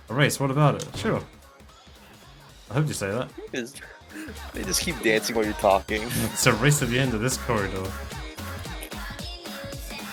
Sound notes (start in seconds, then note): 3.8 chuckles